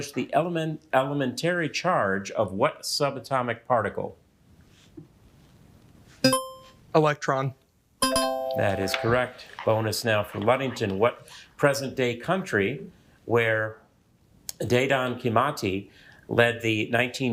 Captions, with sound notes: the elementary charge of what subatomic particle? (buzzer ringing) - Electron. (bell ringing) - That is correct. Bonus now for Ludington. What present day country, where Dedan Kimathi